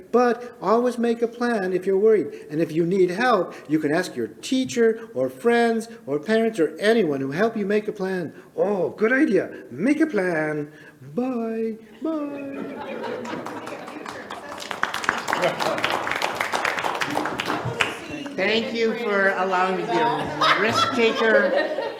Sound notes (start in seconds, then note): 12.6 people clapping; 13.3 people laughing